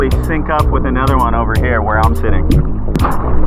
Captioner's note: wave